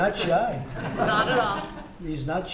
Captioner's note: laughter